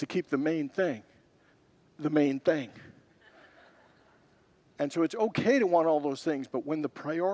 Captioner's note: congregants laugh